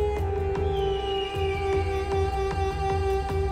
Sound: eagle squawk

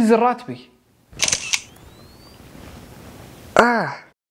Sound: camera flash

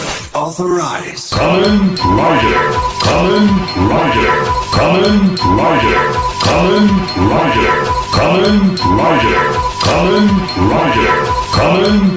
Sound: AIMS Shotriser Standby Sound

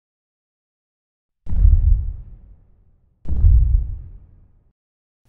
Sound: closer thuds

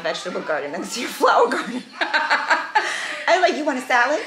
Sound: laughing

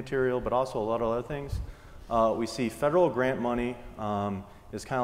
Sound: none

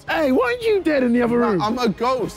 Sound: none

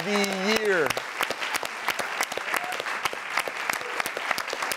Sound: audience clapping

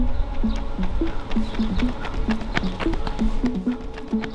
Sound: tense uptempo music; footsteps tapping

